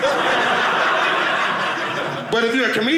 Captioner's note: audience laughing